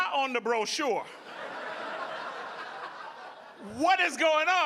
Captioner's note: audience laughing